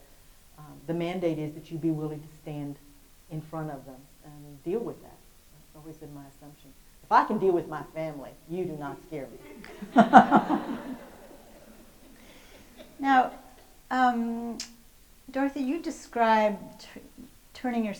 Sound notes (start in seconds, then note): 9.5 host and audience laugh